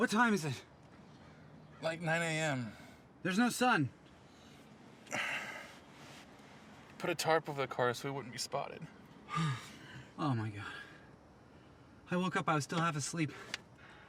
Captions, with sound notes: - What time is it? - Like 9:00 AM. - There's no sun. (Guy sighs) - Put a tarp over the car so we wouldn't be spotted. - Oh my God. I woke up I was still half asleep.